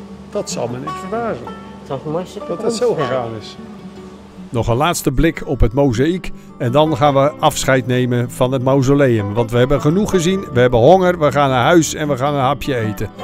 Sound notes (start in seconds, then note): 4.5 voiceover